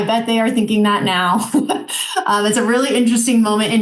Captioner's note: chuckling